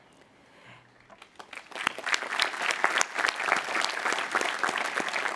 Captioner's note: audience applauding